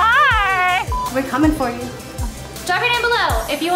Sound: audio beeps

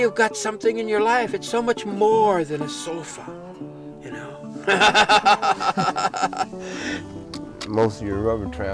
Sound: laugher

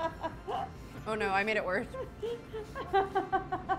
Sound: laughing

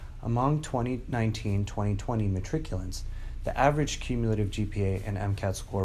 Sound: none

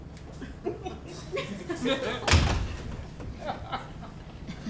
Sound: audience laughs

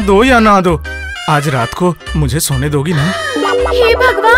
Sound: gasps

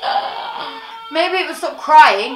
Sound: baby still crying. Even more aggressively

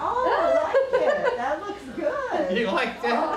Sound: nurse laughs

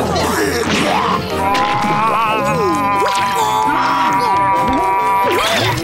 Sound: gagging

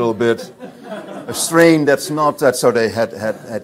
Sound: audience laughs

